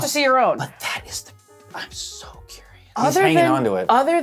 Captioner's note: whispering